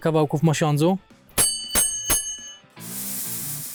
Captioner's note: bell sound